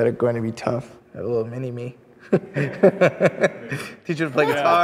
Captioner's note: laughs